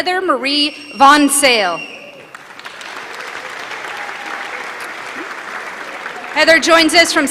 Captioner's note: applause